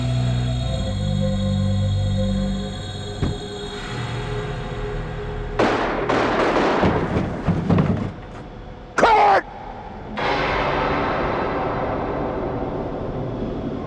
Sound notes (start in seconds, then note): 3.2 thudding; 5.6 gun bangs; 9.4 tense eerie music